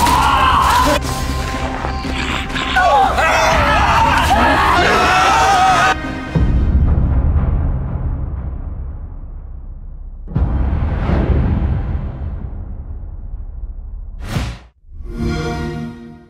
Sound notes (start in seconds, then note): 0.0 screaming; 2.0 zombie growl; 2.6 screaming